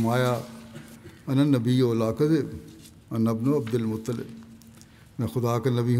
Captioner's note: Arabic